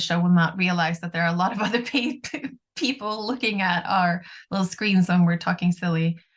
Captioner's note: chuckles